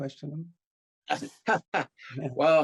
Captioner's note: laughing